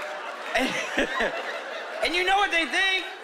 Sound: chuckling

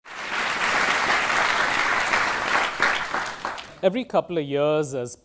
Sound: students applauding

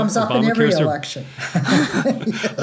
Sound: chuckle

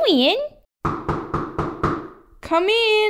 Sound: knock! Knock! Knock!

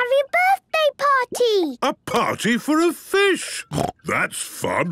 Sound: snorting

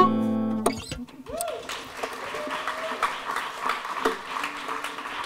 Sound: applause

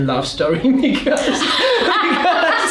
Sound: laughing

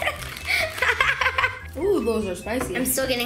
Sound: laughs

